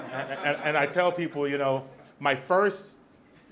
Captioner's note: audience laughs